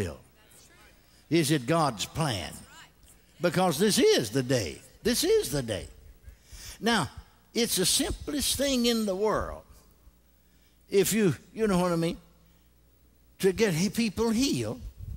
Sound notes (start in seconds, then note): 3.6 congregation responds